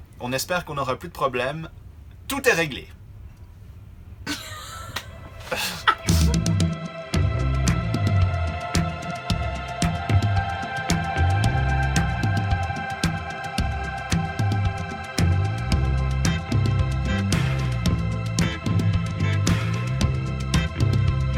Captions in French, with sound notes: On espère qu'on n'aura plus de problèmes, tout est réglé! (rires)